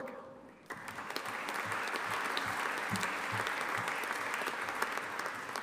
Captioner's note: audience applauding